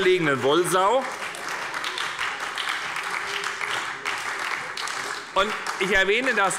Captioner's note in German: Heiterkeit und Beifall bei der SPD und bei Abgeordneten der FDP